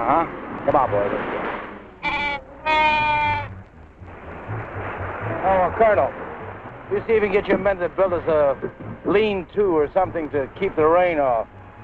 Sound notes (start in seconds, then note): 2.6 Pete baaing